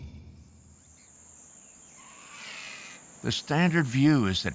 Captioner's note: birds squawking